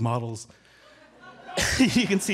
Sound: audience chuckling

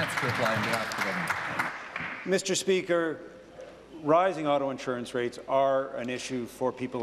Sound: applause

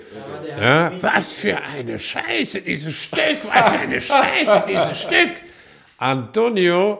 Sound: in German

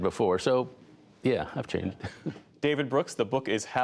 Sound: laughter

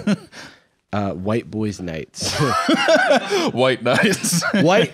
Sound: laughing

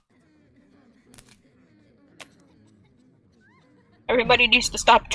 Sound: hears the coughing people in the game background

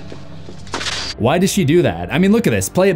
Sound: crashing

